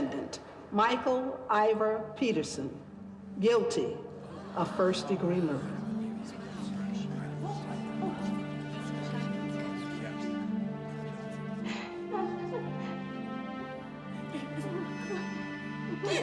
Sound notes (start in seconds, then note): 4.2 gasps; 6.1 indistinct chatter; 11.5 Martha and Margaret cry